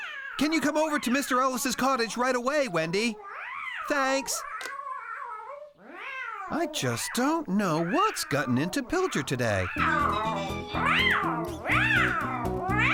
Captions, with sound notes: ( Distant Meowing ) CAN YOU COME OVER TO MR. ELLIS' COTTAGE RIGHT AWAY, WENDY? THANKS! ( Distant Meowing ) I JUST DON'T KNOW WHAT'S GOTTEN INTO PILCHARD TODAY. ( Excited Meowing )